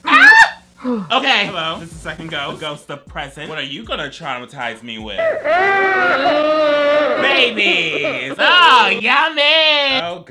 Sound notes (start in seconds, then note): 0.0 screams; 5.1 distorted crying